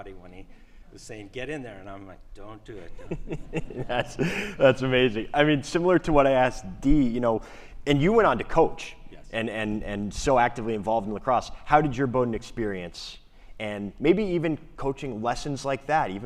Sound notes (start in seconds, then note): 2.7 laughs